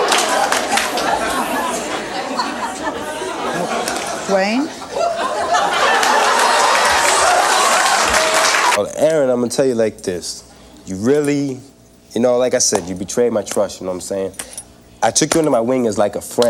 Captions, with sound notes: (audience laughs) - Duane? (audience hoots) - Well Aaron, I'm gonna tell you like this. You really, you know like I said, you betrayed my trust, you know what I'm saying? I took you under my wing as like a friend,